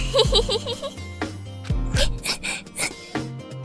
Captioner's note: sniff